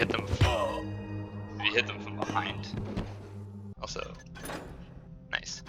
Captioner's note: Guard exclaims, blackjack thuds